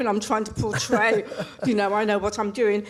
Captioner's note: laughs